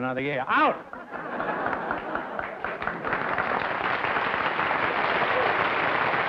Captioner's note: audience laughing and clapping